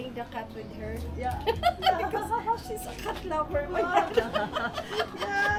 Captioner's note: laughing; hopeful music